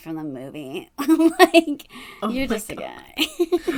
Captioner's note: laughs